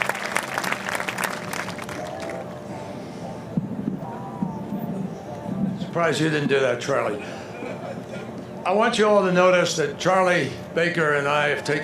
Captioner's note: applause